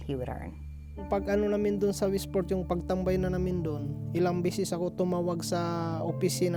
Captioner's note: speaking foreign language